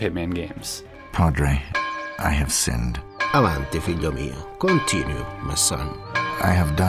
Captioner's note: speaking Italian